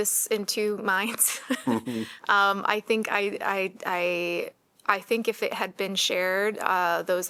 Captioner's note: laughter